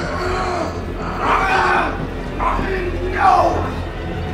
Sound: screams

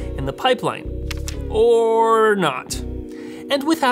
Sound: page rustles

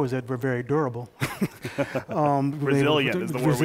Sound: laughter

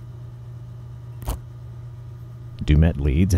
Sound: crappy Dumet wire snaps

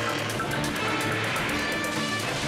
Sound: engine rumbles continues

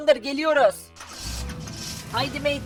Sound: car sound

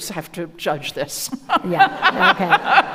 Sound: audience applauding

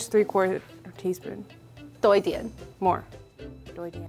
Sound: speaking in mandarin

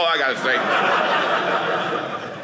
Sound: audience laughing

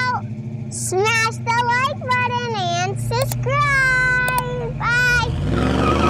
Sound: engine runs; mouse clicks; engines run as tires squeal

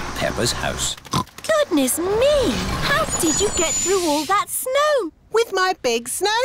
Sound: oinks

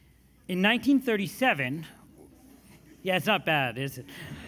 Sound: audience murmurs

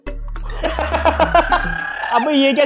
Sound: laughing

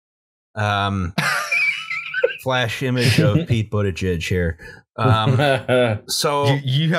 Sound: laughter

